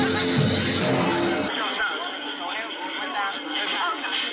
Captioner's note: music stops, indisdinct background chatter